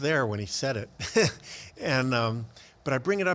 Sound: laughs

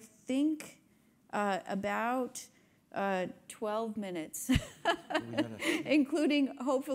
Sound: laughs

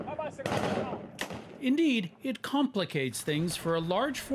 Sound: gunshots

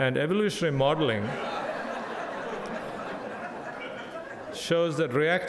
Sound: crowd laughing

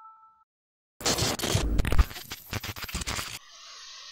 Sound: static

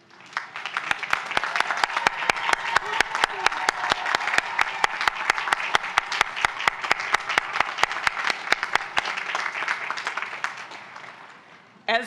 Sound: applause

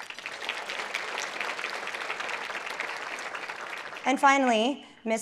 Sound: applause

